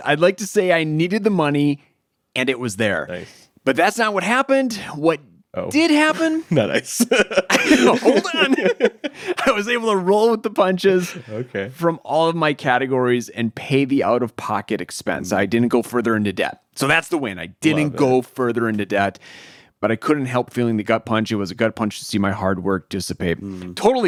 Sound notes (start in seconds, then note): 6.0 laughing